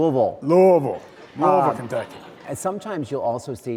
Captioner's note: audience laughs